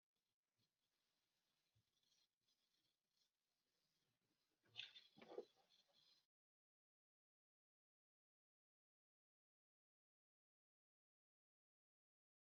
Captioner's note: silence